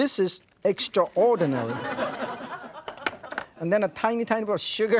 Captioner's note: audience laughing